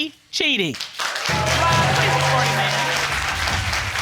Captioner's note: audience clapping